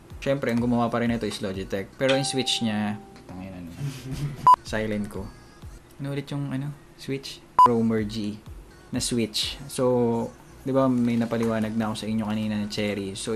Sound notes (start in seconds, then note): 2.0 ding